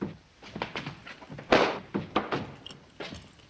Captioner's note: slap